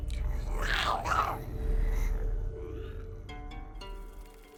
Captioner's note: Giree grumbles; pensive music